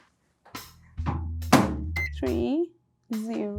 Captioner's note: microwave door thudding